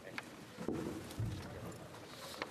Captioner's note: speaking French